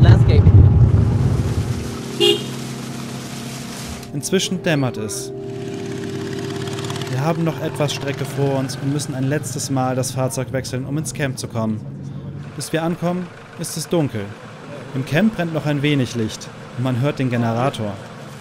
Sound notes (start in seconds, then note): 1.4 honking